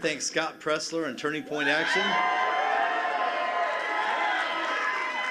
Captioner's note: cheers and applause